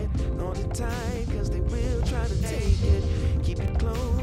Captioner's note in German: Nervös